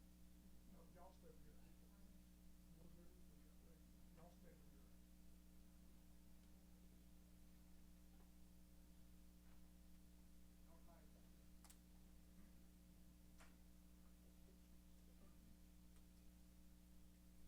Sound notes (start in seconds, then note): 1.8 chatter